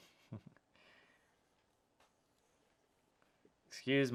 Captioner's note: chuckling